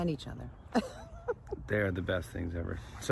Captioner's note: laughs